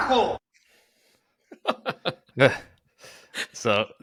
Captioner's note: both laugh